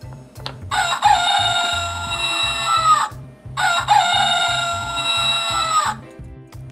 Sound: rooster Sound

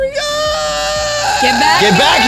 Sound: cries

